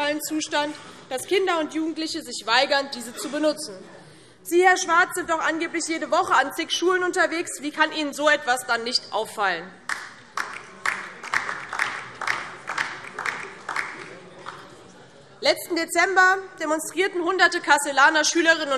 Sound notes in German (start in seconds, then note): 9.8 Beifall DIE LINKE